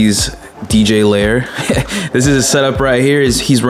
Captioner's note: chuckles